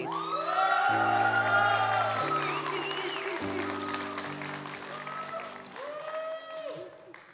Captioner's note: applause and cheering